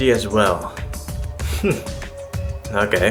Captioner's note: smug noise